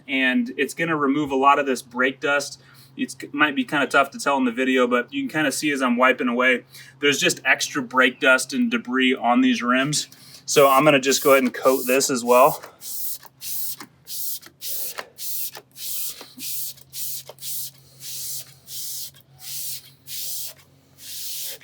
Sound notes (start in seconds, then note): 14.0 liquid spraying